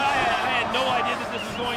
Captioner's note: audience groans